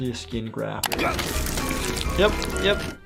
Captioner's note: Lumpy gasping